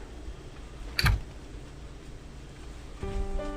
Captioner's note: door closing; piano music